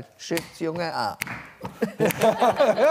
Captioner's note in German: Lachen